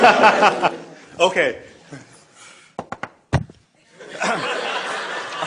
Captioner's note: laughter